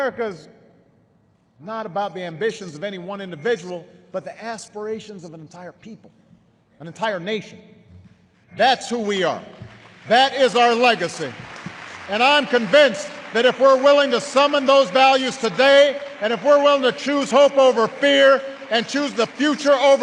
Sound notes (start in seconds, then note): 7.9 applause